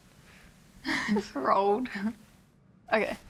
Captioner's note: chuckles